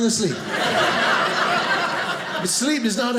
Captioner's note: audience laughing